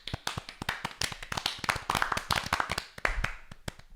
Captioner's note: applause